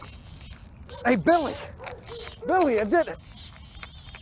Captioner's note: laughs; rod clicking